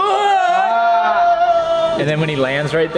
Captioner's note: yells in disgust